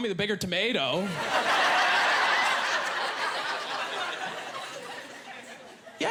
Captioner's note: laughing